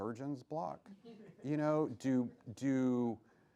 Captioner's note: laughs